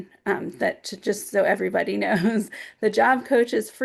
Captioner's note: chuckling